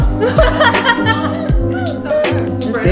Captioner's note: laughs